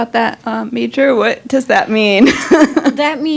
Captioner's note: laughing